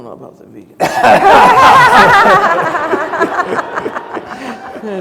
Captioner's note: panelists laugh